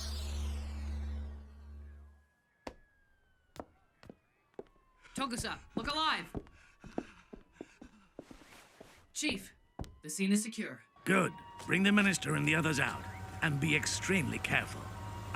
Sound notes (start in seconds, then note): 2.0 sirens wailing in distance; 6.5 panting